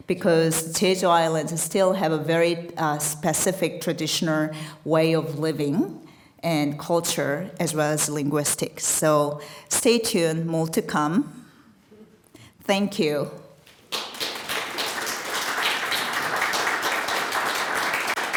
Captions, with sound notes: because Jeju Island still have a very specific traditional way of living and culture as well as linguistics. So stay tuned, more to come. Thank you. (attendees applauding)